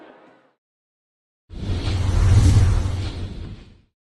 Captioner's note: whoosh sound